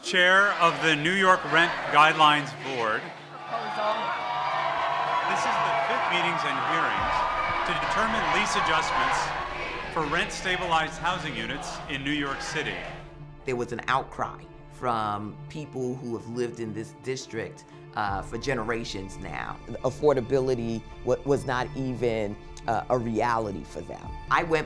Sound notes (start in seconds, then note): 4.1 crowd yelling; 9.2 crowd chanting